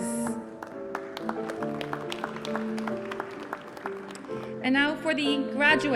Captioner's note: applause